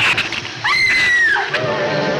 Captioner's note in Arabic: آن تصرخ; موسيقى أوركسترالية درامية